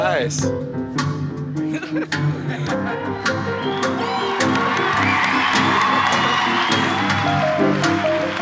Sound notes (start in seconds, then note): 4.1 applause; 7.5 jazz continues